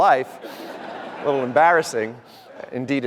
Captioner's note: audience laughter